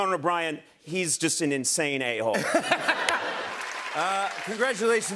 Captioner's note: laughter